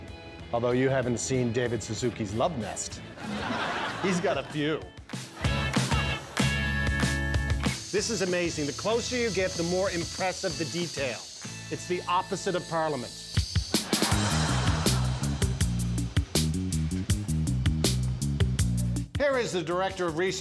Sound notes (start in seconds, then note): 13.8 laughter